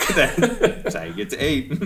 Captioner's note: chuckling